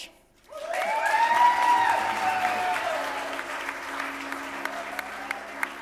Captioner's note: audience cheering and clapping